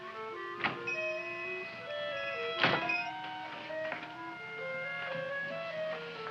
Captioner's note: mysterious music; shop bell chimes